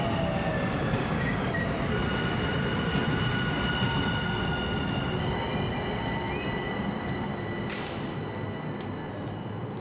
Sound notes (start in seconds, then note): 2.8 train brakes squeal